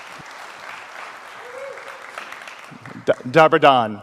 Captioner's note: audience applauds